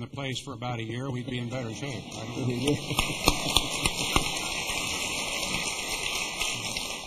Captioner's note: applause